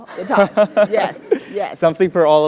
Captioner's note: laugh